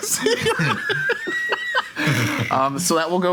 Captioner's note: giggling